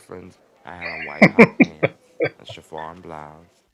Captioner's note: laughing